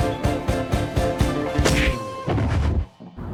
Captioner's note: punch; thud